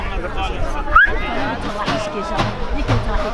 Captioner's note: whistle